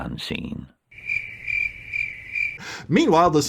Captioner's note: crickets